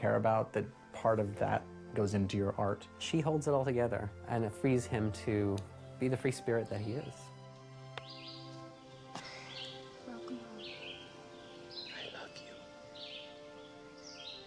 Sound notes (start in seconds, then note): 11.8 caroll speaking